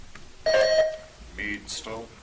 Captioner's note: buzzer chimes